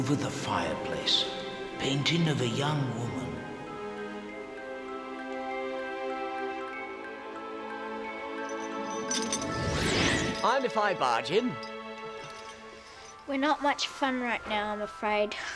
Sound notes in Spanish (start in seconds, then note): 0.2 susurrando; 5.9 música suave; 8.3 traqueteo de la cadena; 9.0 zumbido